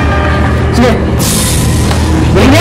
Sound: spits

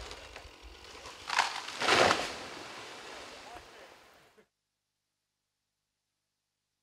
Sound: more damage clearing sounds

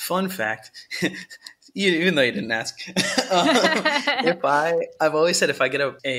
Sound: laughter

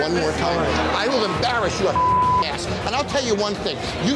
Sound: beep

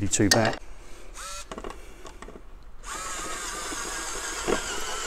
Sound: screwdriver whirring

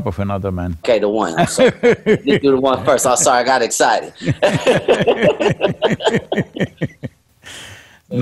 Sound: Sadhguru laughs

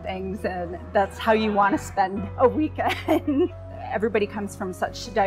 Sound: laughs

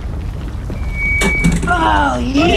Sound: mic drop

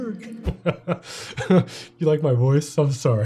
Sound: laughing

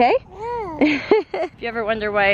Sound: giggles

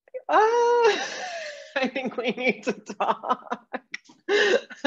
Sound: laughs

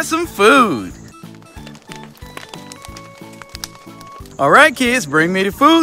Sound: fire crackling

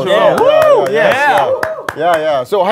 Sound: sound of clapping

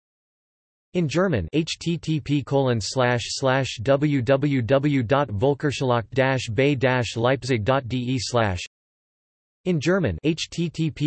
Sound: in German

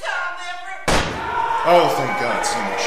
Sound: gunshot sound

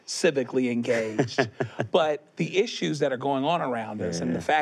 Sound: laughs

